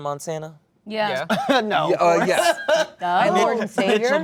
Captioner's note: laughing